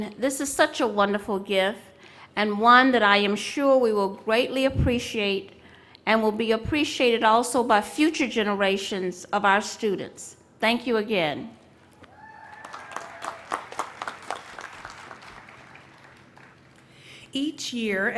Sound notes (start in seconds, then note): 12.2 applause